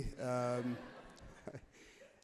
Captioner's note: crowd laughs happily